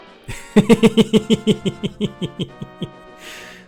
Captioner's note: giggling